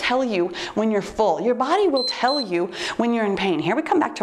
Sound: timer beeps

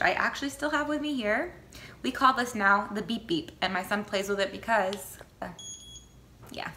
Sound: beep beep noise

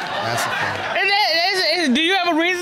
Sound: audience laughs; stutters

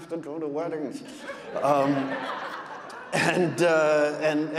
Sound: audience laughing

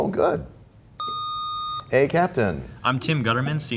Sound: sound of a buzzer

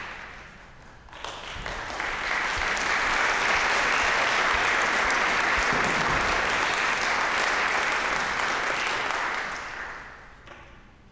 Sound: applause

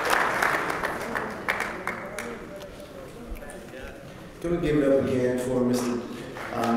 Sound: applause; applause

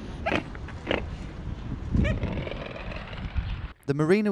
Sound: swan honking

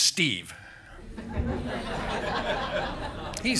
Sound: chuckles

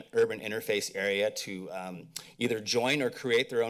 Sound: mouth clicks

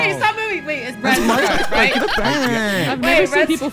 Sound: all laughing

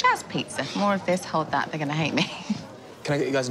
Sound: chuckles

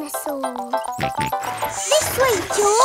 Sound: george snorts

